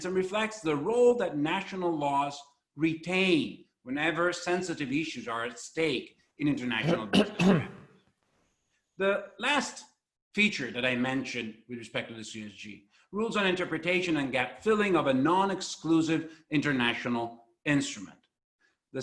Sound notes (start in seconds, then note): 6.8 clears throat